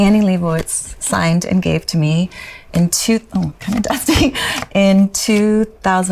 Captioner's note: laughs